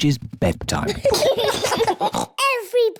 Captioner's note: both giggle